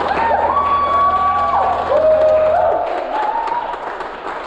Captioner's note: audience clapping